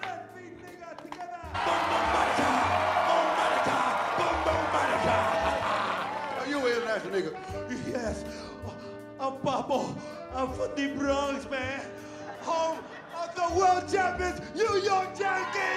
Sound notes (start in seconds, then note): 0.0 speaking Spanish; 1.5 crowd cheering; 12.0 audience laughs